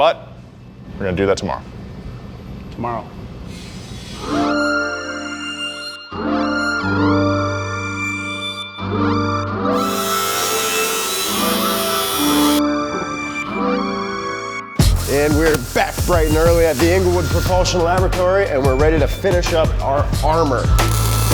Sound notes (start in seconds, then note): 4.5 bright music; 9.7 grinder rasping